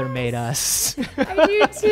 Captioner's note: laughs